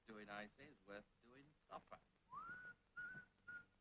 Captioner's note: Harry whistles